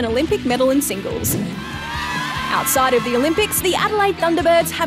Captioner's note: all cheer